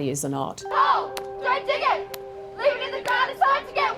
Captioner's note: crowds chant